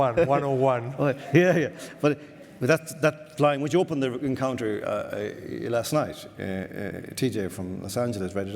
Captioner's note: laughs